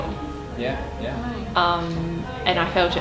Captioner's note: people chattering